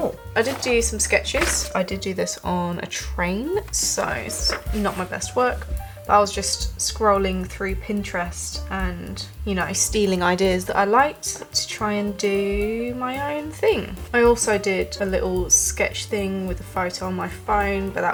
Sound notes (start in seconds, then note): none